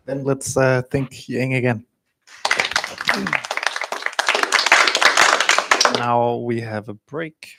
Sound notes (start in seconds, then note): 2.2 applause